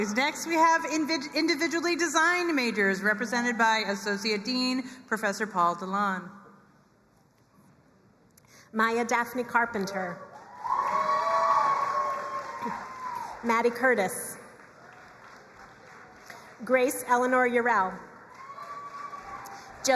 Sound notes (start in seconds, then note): 10.4 crowd cheering and applauding; 14.4 crowd applauding; 18.1 crowd cheering and applauding